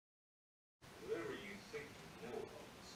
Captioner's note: TV noises